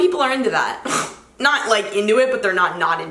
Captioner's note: scoffs